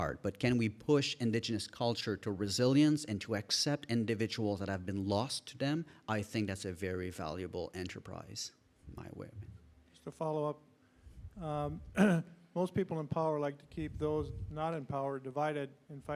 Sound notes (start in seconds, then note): 9.0 speaking faintly